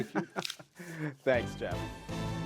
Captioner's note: laughter